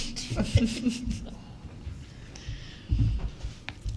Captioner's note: loudly chuckles